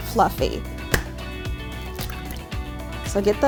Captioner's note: egg cracks; upbeat music